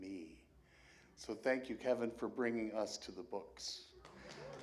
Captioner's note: applause